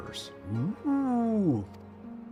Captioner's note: meow